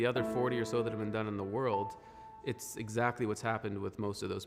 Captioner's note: speaking French